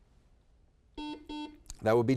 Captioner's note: buzzer beeps